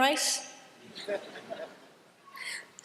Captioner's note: laughter